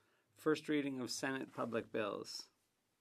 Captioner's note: speaking French